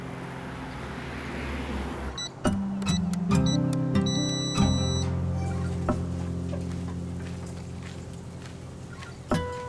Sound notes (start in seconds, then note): 2.2 keypad beeps